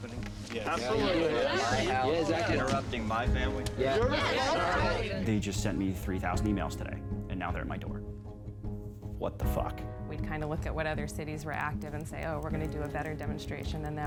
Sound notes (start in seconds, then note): 3.4 crowd clamoring